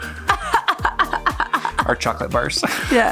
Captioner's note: laughs